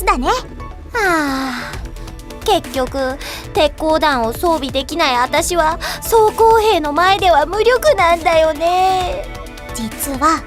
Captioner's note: sigh